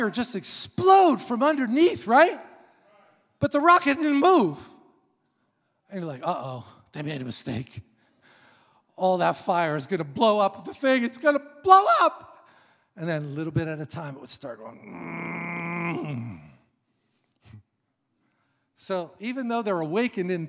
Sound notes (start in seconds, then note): 14.6 groans